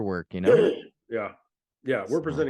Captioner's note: clears throat